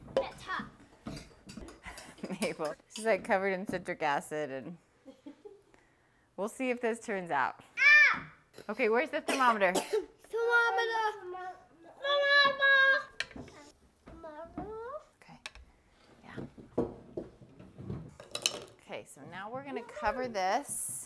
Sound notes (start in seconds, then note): 1.8 chuckle